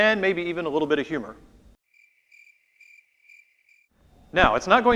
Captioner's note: crickets chirping